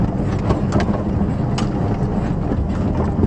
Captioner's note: engine, interior squeaking, rattling noise